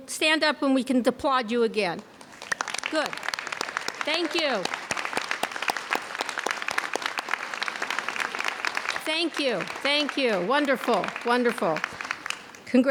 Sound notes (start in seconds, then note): 4.2 clapping; 5.0 audience clapping